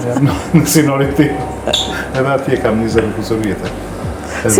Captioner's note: laughs